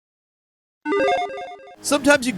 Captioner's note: electronic chiming